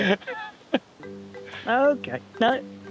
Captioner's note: both chuckling